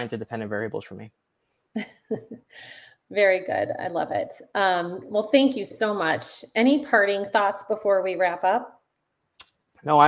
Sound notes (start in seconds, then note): 1.8 chuckles